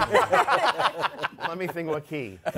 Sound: laughter

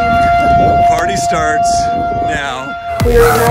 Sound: siren wailing

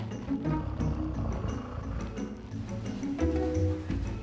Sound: snoring

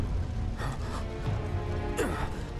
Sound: gasps

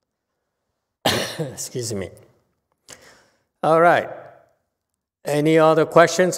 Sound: coughs

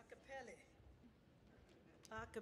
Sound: none

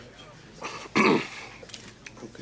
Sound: clears throat

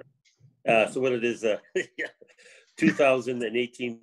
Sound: laughs

